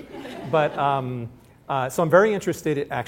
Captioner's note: laughter